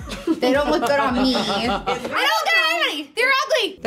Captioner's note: laughing